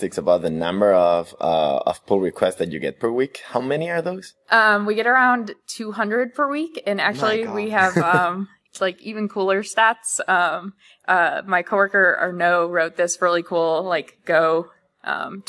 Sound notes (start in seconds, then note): 7.1 laughs